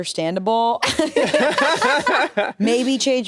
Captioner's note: laugh